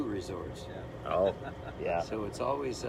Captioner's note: laughs